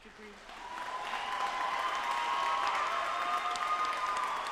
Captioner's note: audience applauding